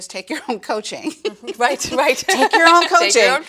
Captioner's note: laughs